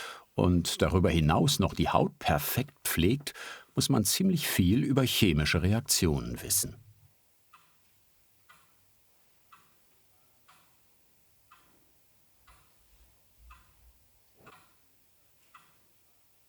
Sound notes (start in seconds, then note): 10.7 clock ticking